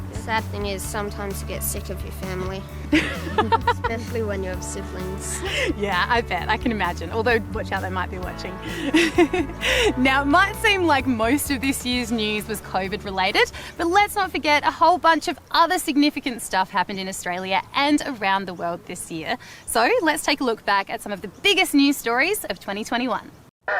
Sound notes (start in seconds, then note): 2.9 others laugh